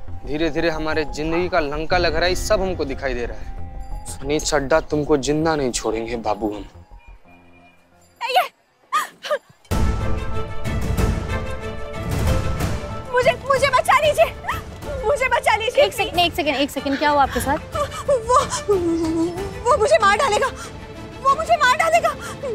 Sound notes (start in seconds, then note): 8.1 whimpering; 9.6 tense music